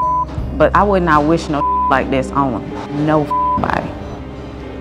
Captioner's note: beep; beep